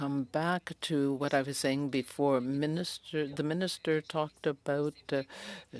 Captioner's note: speaking French